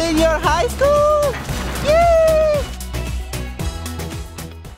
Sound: cheering

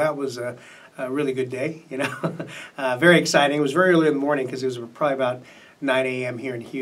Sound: laughs

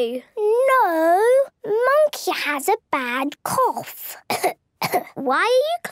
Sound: pretending to cough

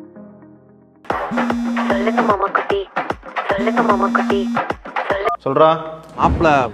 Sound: phone Ringing

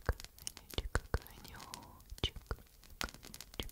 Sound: fire

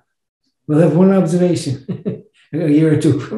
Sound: laughs

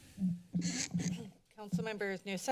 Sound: mic noise

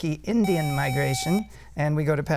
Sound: buzzer

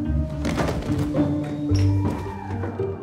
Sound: thud

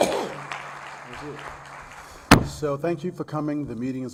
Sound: applause

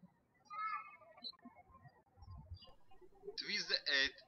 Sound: birds chirping

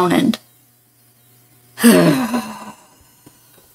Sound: frustrated sigh

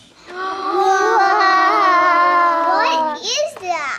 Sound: family gasping

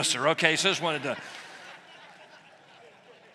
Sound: laughter

